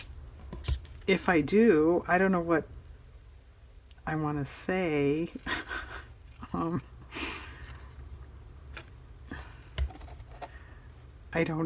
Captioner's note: laughs